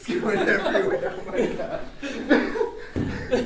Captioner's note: laughter